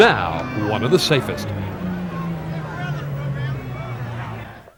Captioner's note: crowd cheers